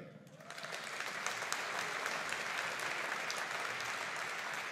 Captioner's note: audience applauding